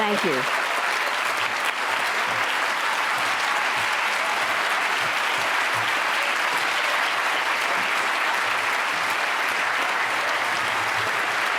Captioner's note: applause